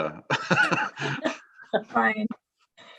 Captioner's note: all laughing